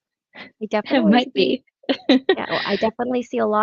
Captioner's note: laughs